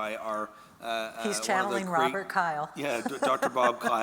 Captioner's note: laughing